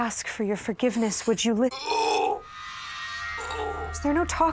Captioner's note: miles groans